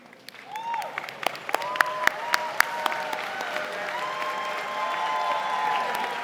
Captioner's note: audience cheering and applauding